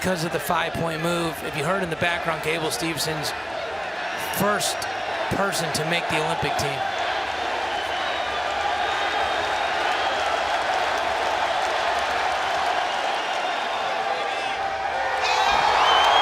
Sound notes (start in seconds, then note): 8.8 crowd loudly cheering